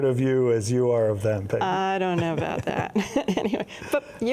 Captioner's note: chuckling